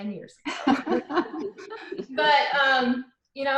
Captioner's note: laughing